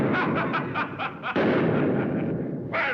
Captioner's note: laughter